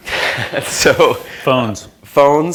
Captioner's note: laughter